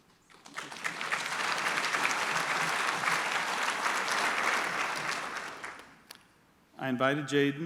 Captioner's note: applause